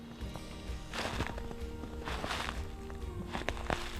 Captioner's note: snow crunching